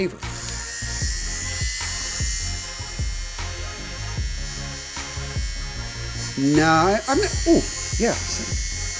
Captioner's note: shaving sound